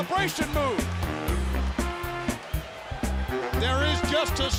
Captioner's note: crowd cheering